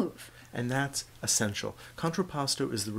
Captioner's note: voiceover